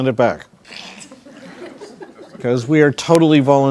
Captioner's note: crowd laughing